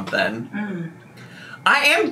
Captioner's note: exclaims